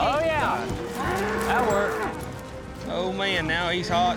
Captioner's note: says sarcastically